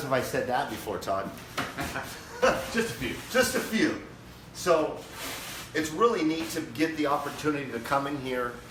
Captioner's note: laughing